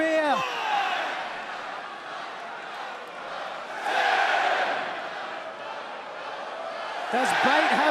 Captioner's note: crowd chatter